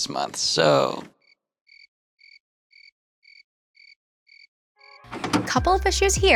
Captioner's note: cricket chirping; videotape pauses